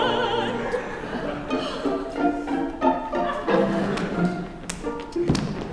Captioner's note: laughter